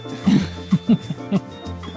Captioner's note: cheerful music; camera operator chuckles